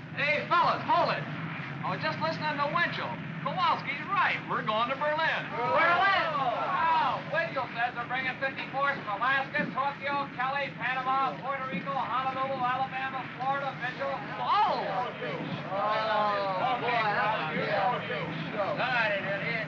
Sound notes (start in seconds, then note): 5.4 men clamor & grumble; 15.6 men grumbling